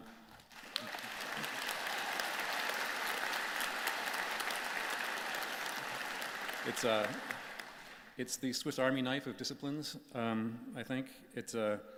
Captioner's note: applause